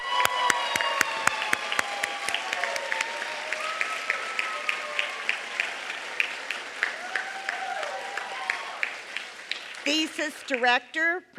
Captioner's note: applause